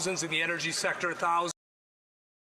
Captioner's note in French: voix de l'interprète